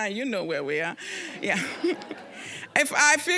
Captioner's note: audience laughing